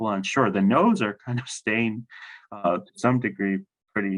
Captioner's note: laughs